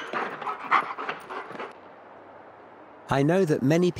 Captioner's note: dog panting